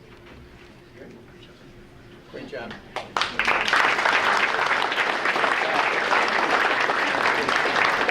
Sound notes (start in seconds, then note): 3.0 audience applauding